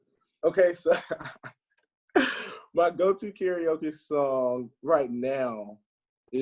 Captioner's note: laughs